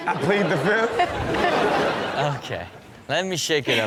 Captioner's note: audience laughs